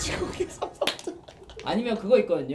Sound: ugh!

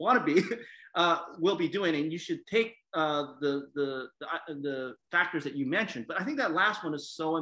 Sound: laugh

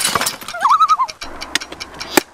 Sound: loon call

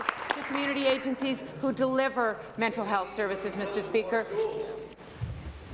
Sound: applause

